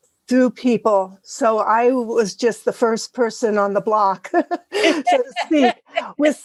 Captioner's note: laugh